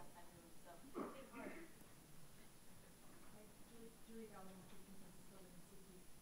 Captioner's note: audience member speaking softly